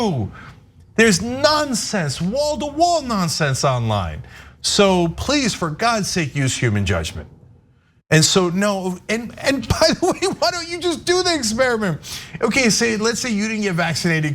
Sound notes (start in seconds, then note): 9.8 laugh